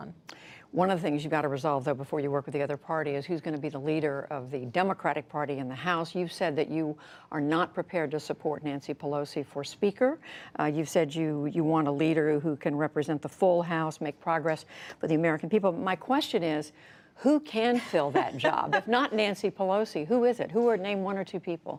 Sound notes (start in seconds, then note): 17.8 laughter